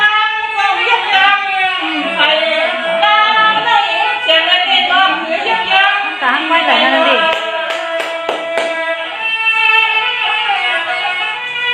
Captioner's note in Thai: ปรบมือ